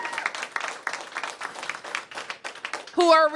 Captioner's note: applause